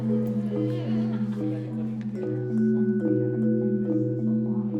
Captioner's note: students chattering